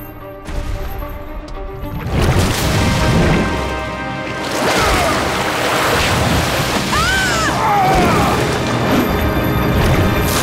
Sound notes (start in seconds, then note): 3.9 grunting; 6.9 screaming